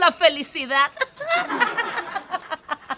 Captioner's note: laughs